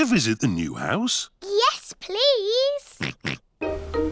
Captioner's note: oinks